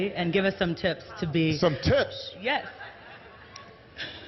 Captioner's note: laughter